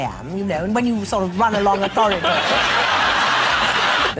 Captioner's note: giggles and Audience laughter